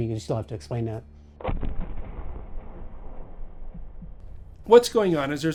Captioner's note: thunderous booming